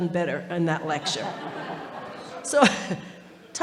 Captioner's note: audience laughing